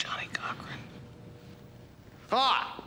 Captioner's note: whispering